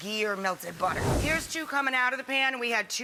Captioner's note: air whooshing